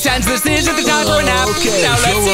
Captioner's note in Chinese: 打哈欠